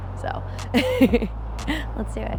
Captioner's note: laughing